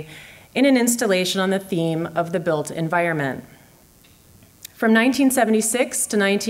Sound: none

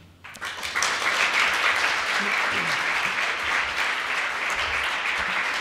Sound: applause

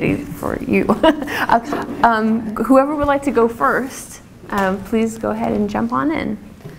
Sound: laugh

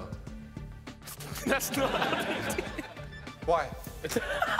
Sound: laughing; laughing

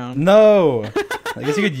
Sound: laughing

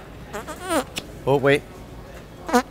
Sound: farting noise

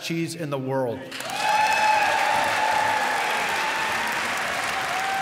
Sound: applause

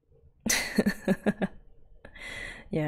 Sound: laughs

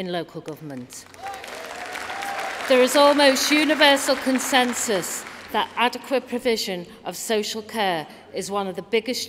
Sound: applause

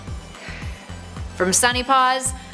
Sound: sigh

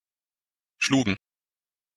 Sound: fast Pronunciation

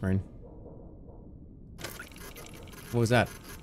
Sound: whirring sounds

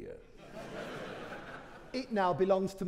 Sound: audience laughing

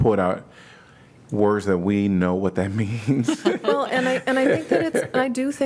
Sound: laughter

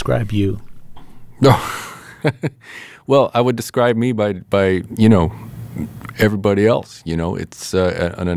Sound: laughter

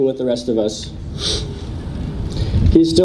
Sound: sniffs

